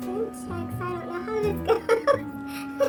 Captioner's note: laughs